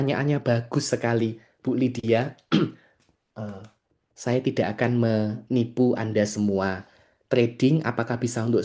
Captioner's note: berdehem